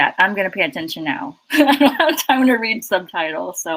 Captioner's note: laughs